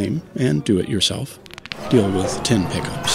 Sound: knuckles crack

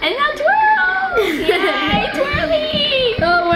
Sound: laughing

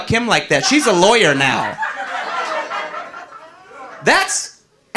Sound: audience laughing

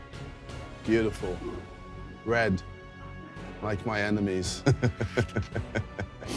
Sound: laughs sinisterly

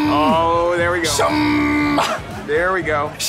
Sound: cheering

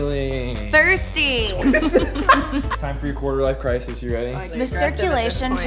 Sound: laughing

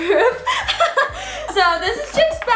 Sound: laughing

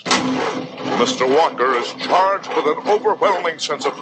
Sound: car engine spluttering

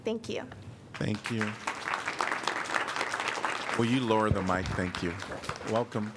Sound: applause

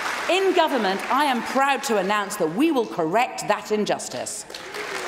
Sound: applause

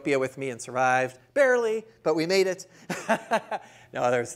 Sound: laughing

